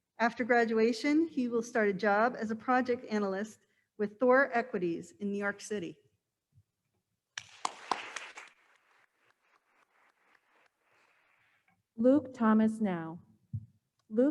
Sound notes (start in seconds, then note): 7.4 attendees applauding